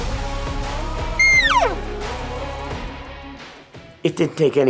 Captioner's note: elk bugling